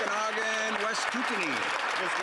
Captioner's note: applause